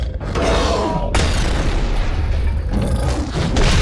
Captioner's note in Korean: 괴물 울음소리